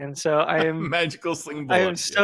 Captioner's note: laughs